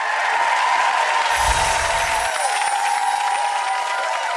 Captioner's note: audience applause